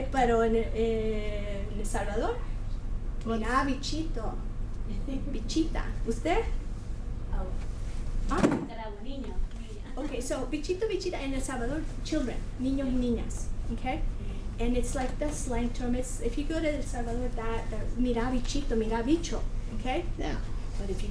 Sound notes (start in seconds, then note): 3.4 foreign Language